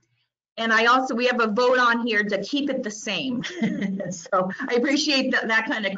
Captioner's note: giggles